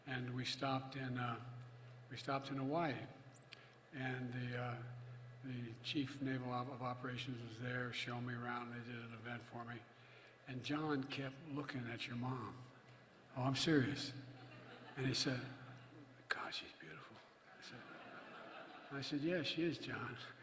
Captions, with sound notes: And we stopped in -- we stopped in Hawaii. And the Chief Naval -- of Operations was there showing me around. They did an event for me. And John kept looking at your mom. Oh, I'm serious. (Laughter.) And he said, "My God, she's beautiful." (Laughter.) I said -- and I said, "Yeah, she is, John."